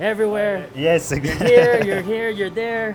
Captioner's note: laughs